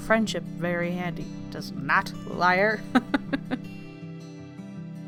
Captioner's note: laughs